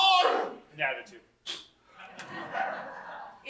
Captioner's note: blows short raspberry